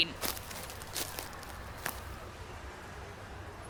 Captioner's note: footsteps